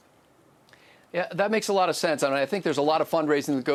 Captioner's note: voiceover